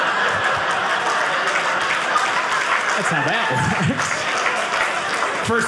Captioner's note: audience laughing; audience cheering